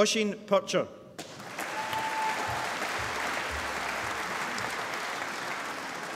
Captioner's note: applause